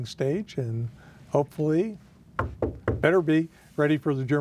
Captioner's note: knocking